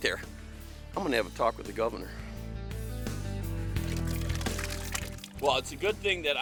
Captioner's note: soda splash